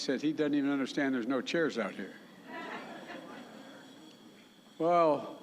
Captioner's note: laughter